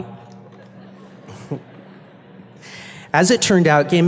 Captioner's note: chuckles